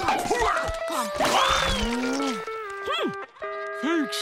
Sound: groaning

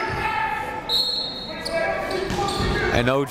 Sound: coaches yelling; crowd talking; whistle blows

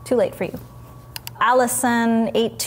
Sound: mouse clicking

